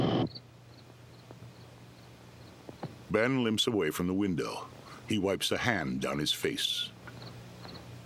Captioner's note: crickets chirping